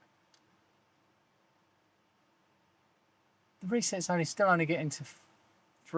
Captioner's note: silence